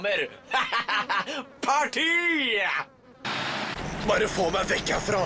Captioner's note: laughs